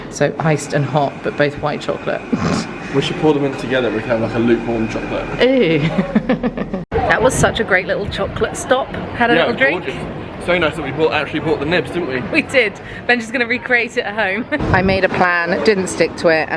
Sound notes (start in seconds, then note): 5.7 chuckling